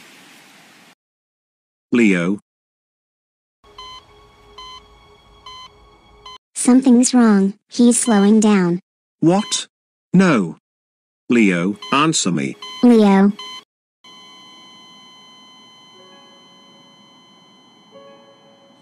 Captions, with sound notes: Leo. ( beeping ) Something's wrong. He's slowing down. What? No. Leo. Answer me! Leo! (beeping slows, becomes a continuous tone )